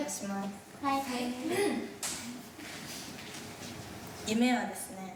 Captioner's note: speaking in foreign language